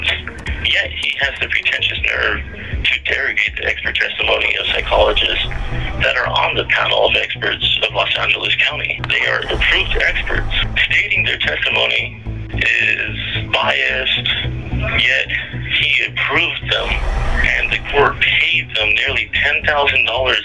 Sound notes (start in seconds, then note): 5.2 music changes; 9.1 filtered woosh